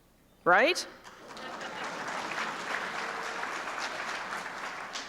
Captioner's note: applause